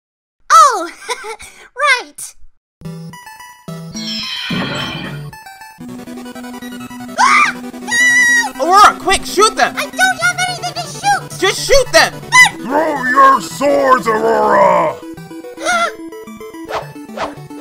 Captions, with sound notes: Oh, haha! Right! AHH! GHOSTS! Arora! Quick shoot them! I don't have anything to shoot! - Just shoot them! - But--! THROW YER SWORDS, ARORA! (gasps)